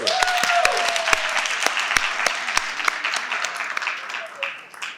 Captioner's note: participants applaud